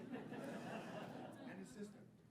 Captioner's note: audience laughing